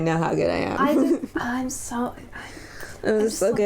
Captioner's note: sigh